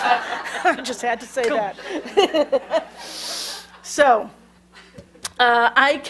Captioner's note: laughter